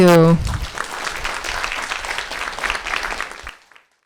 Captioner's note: audience applauding